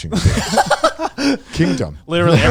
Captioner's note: laugh